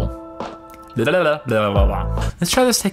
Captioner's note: tongue noises